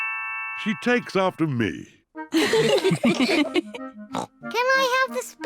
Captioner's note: all laugh; snorts